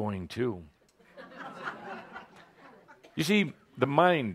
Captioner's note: some laughter